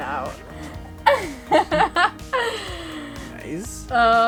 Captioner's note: laughs